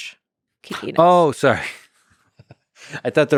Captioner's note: laughs